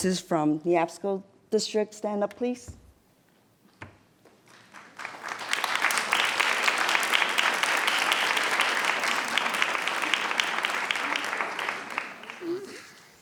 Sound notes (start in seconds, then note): 4.5 audience applauds